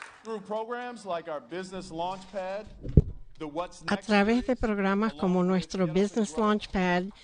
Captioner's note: applause